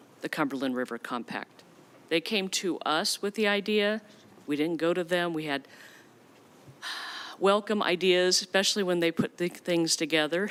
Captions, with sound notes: the Cumberland River Compact. They came to us with the idea. We didn't go to them. We had (sighs) welcome ideas, especially when they put the things together.